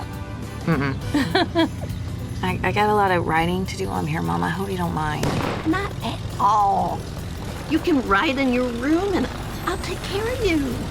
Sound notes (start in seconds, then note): 0.7 ellie laughs; 4.9 car backfires